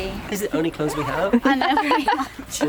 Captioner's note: laughing